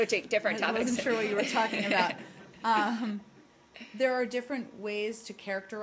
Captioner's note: laughter